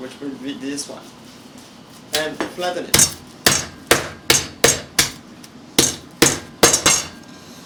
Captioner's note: pounding sounds